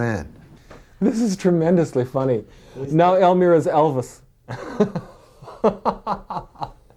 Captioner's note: laughs